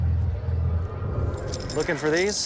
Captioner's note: jingles keys